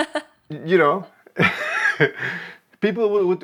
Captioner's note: laughs